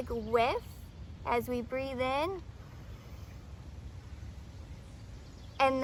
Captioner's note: breathes in